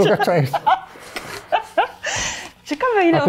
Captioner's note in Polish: śmiech